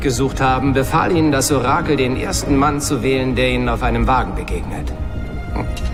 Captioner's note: gasps